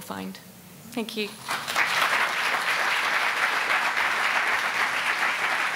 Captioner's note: audience applauding